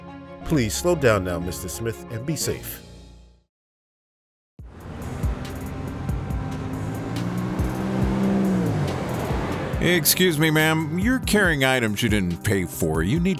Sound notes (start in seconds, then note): 3.1 music stops; 4.6 car engine